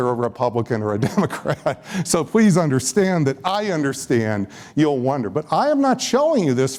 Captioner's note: laughs